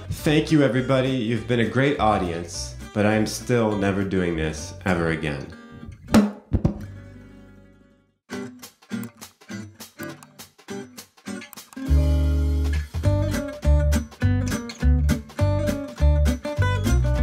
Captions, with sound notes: Thank you everybody... You've been a great audience. But I am still never doing this... Ever again. *mic drops*